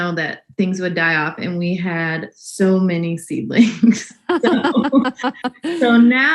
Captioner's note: laughs